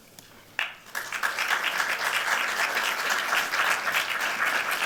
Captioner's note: applause